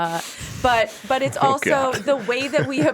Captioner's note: chuckling